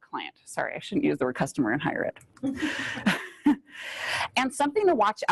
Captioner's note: laughs